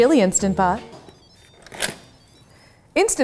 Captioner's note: machine beeping